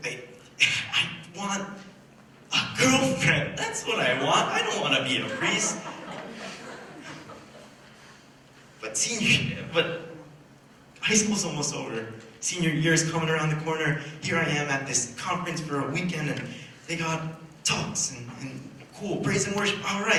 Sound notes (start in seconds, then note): 5.2 laughter